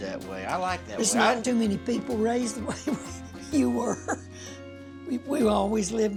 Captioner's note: chuckling